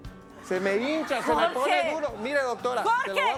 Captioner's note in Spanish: Risas del público